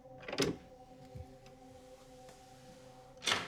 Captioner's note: latch clicking